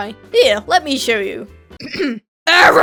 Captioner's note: ahem; intense screaming